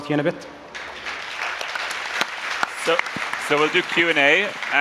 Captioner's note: applause